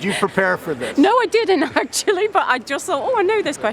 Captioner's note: laughs